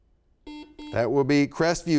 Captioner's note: buzzer sounds